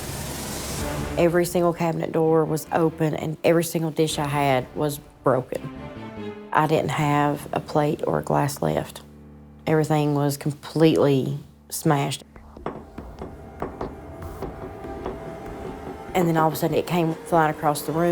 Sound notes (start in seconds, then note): 12.4 plate tapping